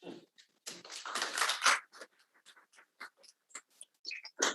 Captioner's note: audience applauding